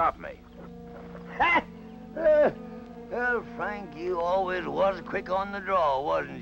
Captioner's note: gasps